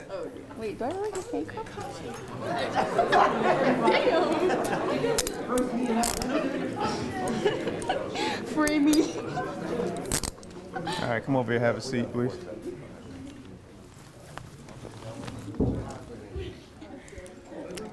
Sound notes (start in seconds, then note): 2.7 attendees laughing; 4.9 background chatter; 10.2 laughing